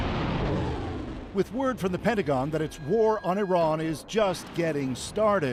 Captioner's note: explosion